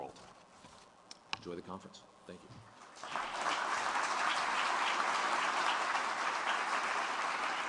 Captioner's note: applause